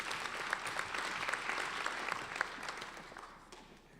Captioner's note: applauding